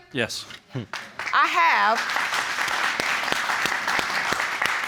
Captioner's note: audience applauding